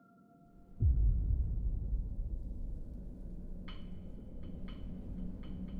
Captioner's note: tense music; wind whistling